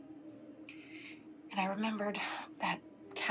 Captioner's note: sighs